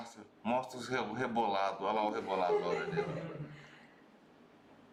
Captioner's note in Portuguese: risos